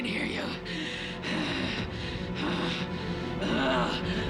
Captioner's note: grunts